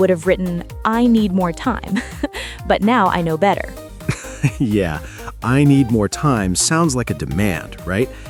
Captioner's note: laughs